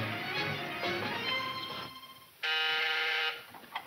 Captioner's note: intercom buzzing